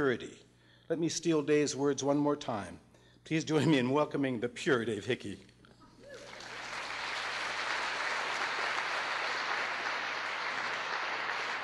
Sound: applause

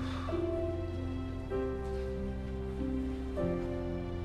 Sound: sighs

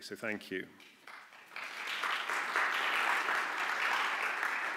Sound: applause

